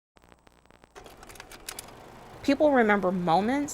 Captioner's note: film projector clicks